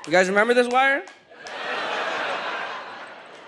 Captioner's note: audience laughs